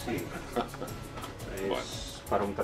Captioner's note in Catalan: Risas